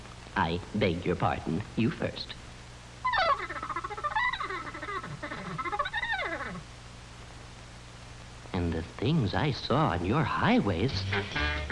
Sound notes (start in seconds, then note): 3.5 squeaking